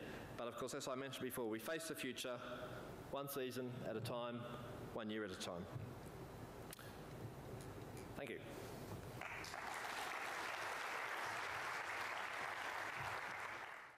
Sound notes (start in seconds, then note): 9.2 applause